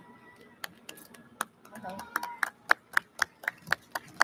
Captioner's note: audience claps